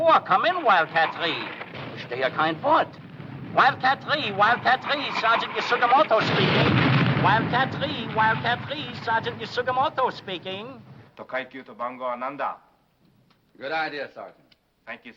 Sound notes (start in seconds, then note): 2.3 speaking foreign language; 6.5 bomb exploding; 11.3 speaking foreign language